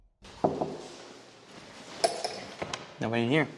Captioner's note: knock